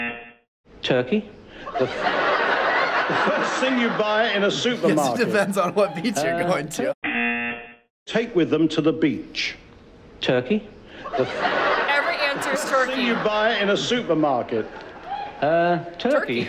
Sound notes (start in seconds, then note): 0.0 buzzer; 1.7 audience laughing; 7.1 buzzer